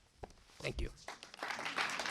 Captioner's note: applause